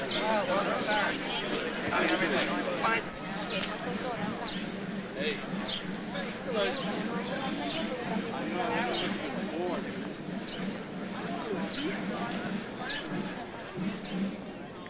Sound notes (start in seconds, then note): 3.5 overlapping chatter; 3.5 slow drum playing